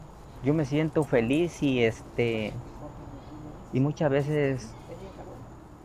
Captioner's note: speaking Spanish language